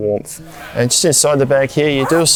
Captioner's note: zipper undoes